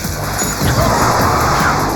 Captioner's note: gasps; screaming